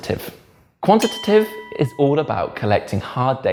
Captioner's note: bell dings